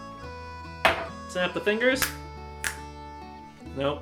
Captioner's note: glass hitting the counter; snap